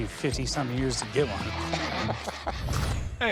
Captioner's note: laughs